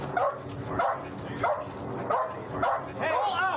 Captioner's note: dog barking